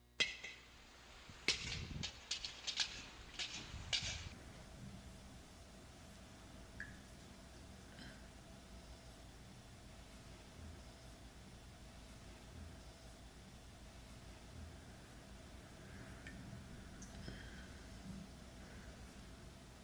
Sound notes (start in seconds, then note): 6.7 drip; 7.9 soft breathing